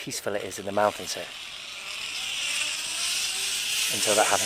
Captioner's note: loud whirring